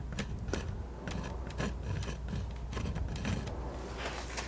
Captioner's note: scratching